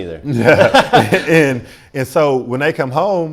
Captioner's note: both laugh